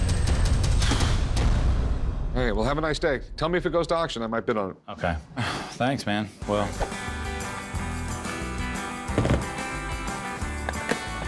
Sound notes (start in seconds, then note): 6.8 sighs